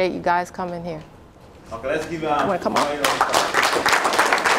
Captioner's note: applause